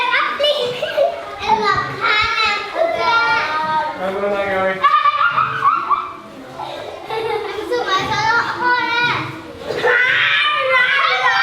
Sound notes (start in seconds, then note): 4.5 kids giggling; 4.8 chuckles; 5.0 kids chattering; 8.5 kids shouting